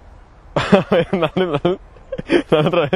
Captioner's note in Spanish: Risas